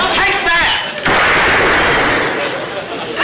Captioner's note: gunshot